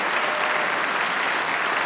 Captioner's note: applause